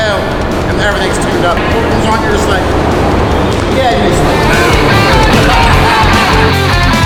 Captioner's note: laughing